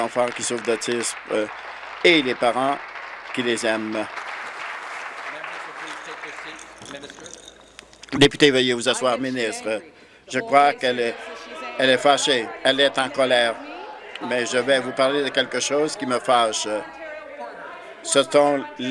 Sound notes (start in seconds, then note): 3.9 applause